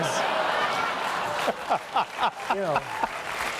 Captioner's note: laughter